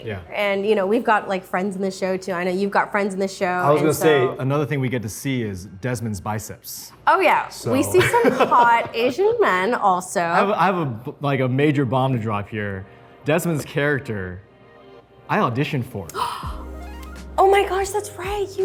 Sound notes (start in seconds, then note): 7.7 laughs; 16.1 Arden gasps